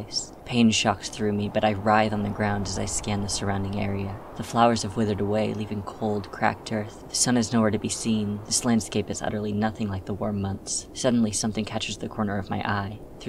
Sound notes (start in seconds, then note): none